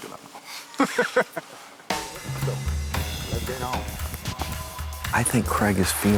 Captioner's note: lalaugughthterer